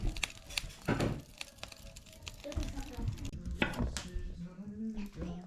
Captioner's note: crunching